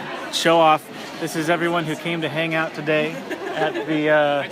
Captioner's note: laughter